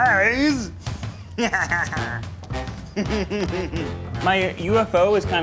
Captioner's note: laughing maniacally